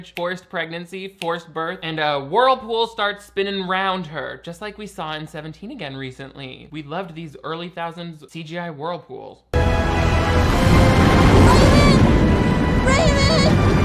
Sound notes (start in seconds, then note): 9.5 dramatic orchestral music; 9.9 water roaring